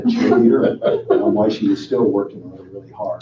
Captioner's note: laughing